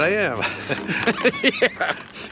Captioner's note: both laugh